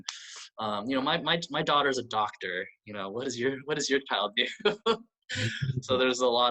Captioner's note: laughs